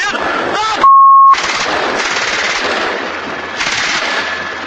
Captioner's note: shooting